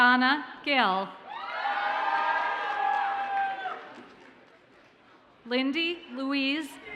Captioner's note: audience cheers and applauds